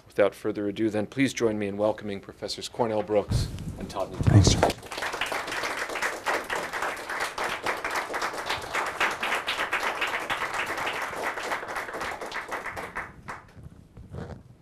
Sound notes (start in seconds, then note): 5.4 audience applauding